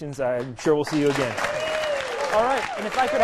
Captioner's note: cheering